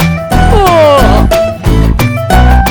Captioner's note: he also yawns